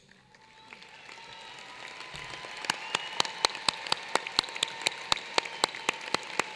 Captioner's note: applause